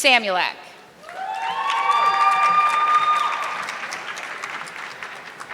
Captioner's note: audience clapping